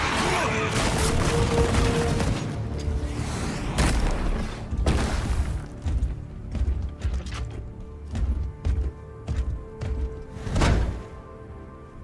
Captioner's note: screaming and groaning